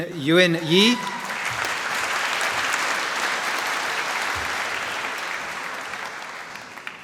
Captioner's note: applause